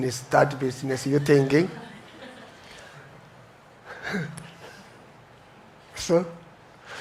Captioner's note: audience chuckles